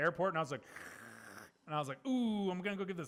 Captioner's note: slurping